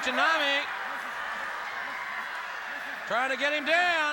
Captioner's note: audience cheering